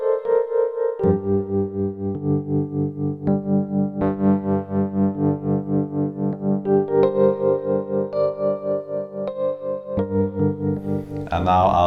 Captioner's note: hurr hurr